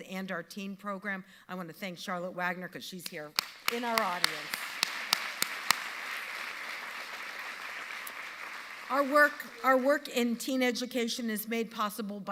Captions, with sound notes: and our teen program. I wanna thank Charlotte Wagner, 'cause she's here in our audience. (audience applauding) Our work in teen education is made possible